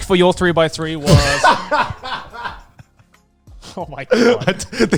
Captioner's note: laughs